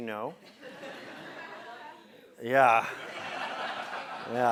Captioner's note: laugh